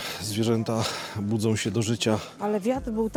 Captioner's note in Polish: westchnienie